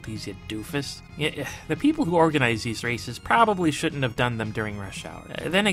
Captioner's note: sigh